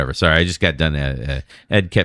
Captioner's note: uh